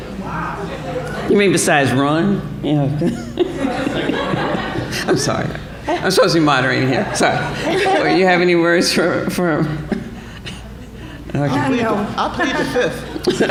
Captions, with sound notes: Wow. You mean besides run? You know-- [LAUGHING] [LAUGHTER] I'm sorry about that. I'm supposed to be moderating here. So, do you have any words for-- Oh no. I'll plead the fifth.